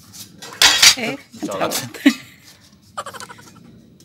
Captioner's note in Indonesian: tertawa